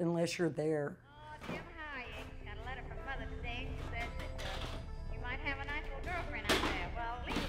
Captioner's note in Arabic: ثرثرة راديو بعيدة; رنين معدني